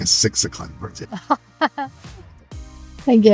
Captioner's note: laughing